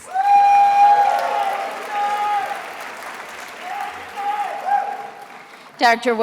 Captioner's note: attendees applauding and cheering